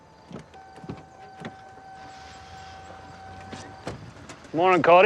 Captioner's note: dinging